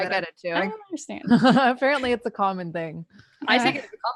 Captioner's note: laughs